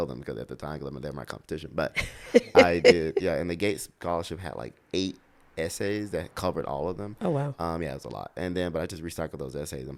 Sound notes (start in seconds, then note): 1.9 laughs